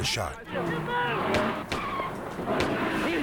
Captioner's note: gun bangs